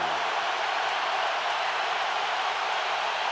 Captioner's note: crowd cheering